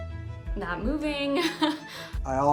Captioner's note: chuckles